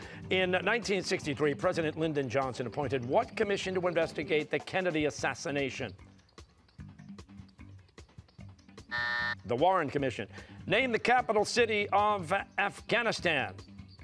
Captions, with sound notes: In 1963, President Lyndon Johnson appointed what commission to investigate the Kennedy assassination? (buzzer) The Warren Commission. Name the capital city of Afghanistan.